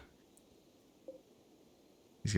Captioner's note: silence